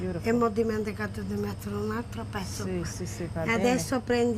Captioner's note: speaking Italian